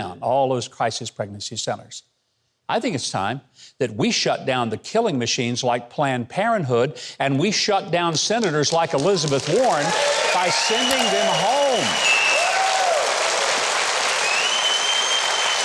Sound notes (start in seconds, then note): 9.7 audience cheering